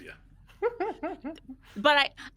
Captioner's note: person chuckling